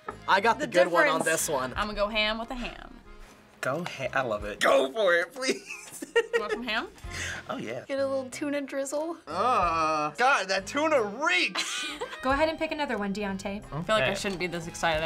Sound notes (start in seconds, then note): 5.5 giggles; 11.6 chuckles